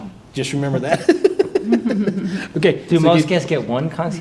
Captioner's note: chuckling